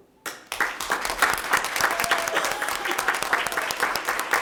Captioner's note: audience applauds